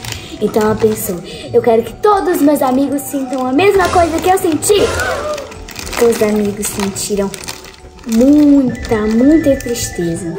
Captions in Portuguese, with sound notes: Então, ela pensou: 'Eu quero que todos os meus amigos sintam a mesma coisa que eu senti!' [som de espanto] [suspiros surpresos] Então, os amigos sentiram muita, muita tristeza.